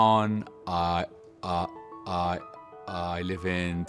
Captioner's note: stuttering